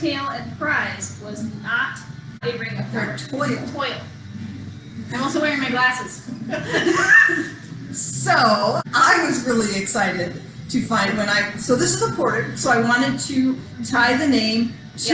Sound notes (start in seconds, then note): 6.4 laughter